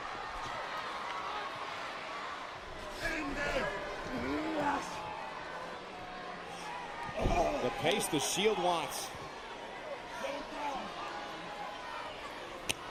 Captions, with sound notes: (crowd clamors) The pace the Shield wants. Get him down.